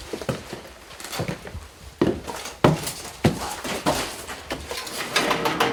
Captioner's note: boots thudding up stairs; metal clanging